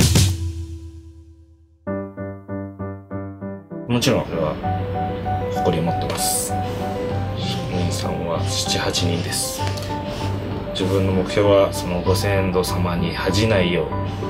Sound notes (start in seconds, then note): 1.7 pleasant orchestral music; 3.7 speaking in foreign language